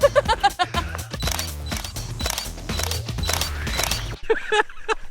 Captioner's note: laughing; shutter snapping; laughing